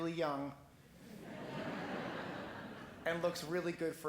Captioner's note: laughing